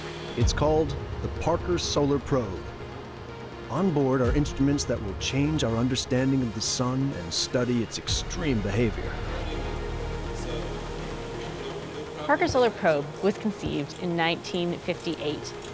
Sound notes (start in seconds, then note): 9.4 people talking in background